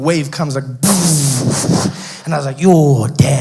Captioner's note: wave crashing sound effect